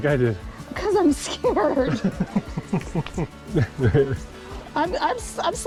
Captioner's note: laughs